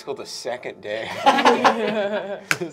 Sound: laughter

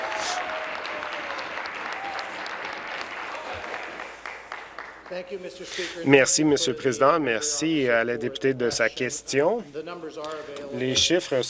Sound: applause

